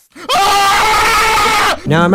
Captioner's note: fearful screech